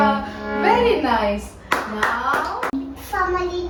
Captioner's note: claps